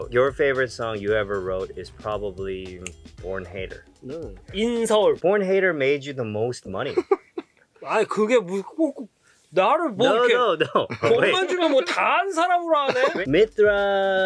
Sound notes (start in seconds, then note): 6.8 giggles; 8.2 speaking in Korean